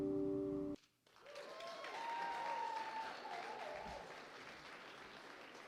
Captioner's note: applause